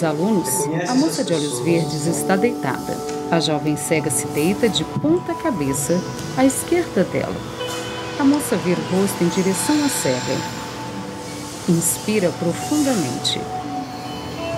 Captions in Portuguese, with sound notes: Reconhece essas pessoas que estão aqui. [Som de suspiro]